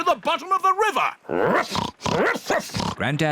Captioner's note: oinks; barks